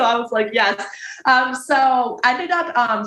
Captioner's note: chuckles